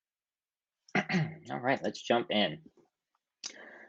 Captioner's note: clears throat